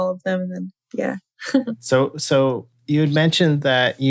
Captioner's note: laughter